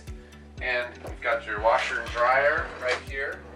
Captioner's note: sliding door opens; sliding door closes